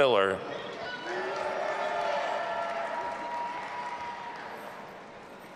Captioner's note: audience applauding and cheering